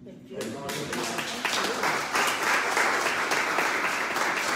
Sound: audience applauds

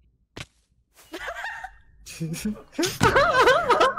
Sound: laughing

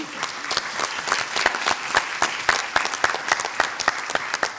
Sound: audience applauds

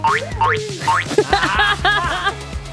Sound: laughing

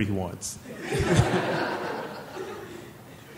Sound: laughing

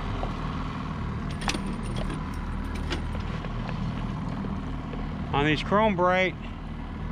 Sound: tackle rattling

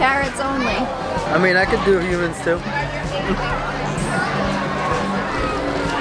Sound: laughing

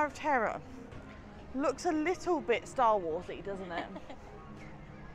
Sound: laughs

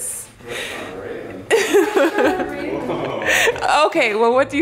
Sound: giggles

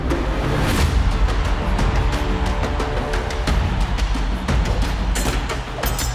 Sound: intense music; crowd cheering

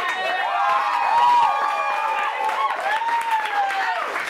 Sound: audience cheering

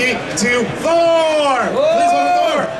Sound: audience cheers

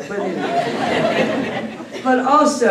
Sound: laughter

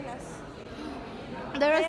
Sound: offended Gasp

